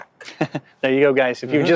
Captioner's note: laughs